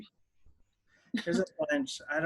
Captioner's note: laughing